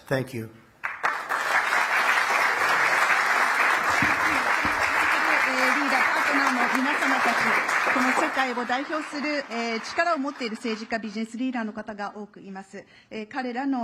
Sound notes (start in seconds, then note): 0.8 applause; 11.8 speaking Japanese